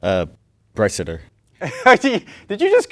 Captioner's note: laughs